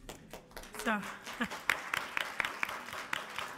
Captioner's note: applauding